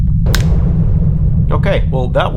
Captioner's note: snaps fingers